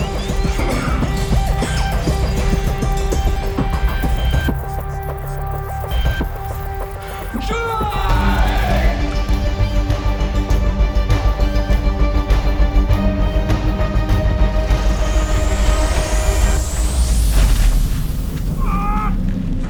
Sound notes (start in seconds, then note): 2.3 bassy hum; 4.8 hum intensifies; 14.4 atmospheric suction; 17.0 building collapse; 17.0 electric hum